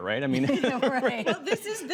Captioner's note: laughter